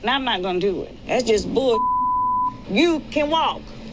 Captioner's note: beeping